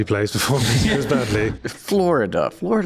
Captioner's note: chuckles